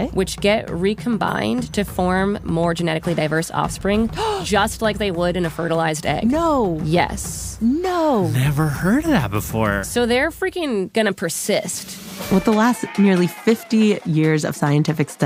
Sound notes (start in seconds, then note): 4.1 gasps